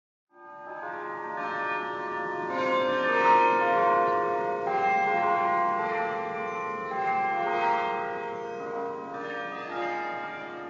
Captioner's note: church Bells